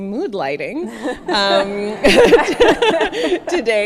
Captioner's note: all laugh